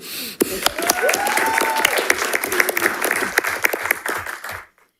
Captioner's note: audience applauding